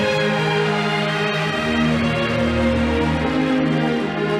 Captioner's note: audience applauding